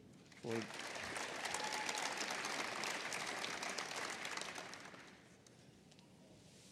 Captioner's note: applause